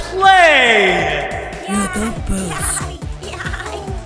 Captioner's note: excited toy sounds; techno music